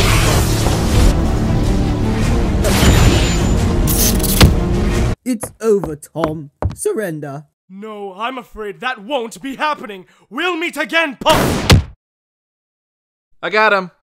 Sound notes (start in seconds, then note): 11.2 gun shot; 11.6 thud